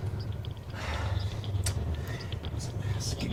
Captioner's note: sighs